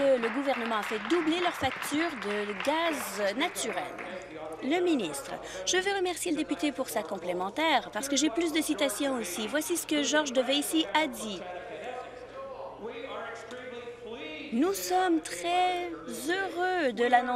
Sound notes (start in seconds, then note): 5.0 applause